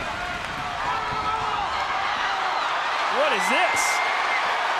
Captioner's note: Hardy shouts wordlessly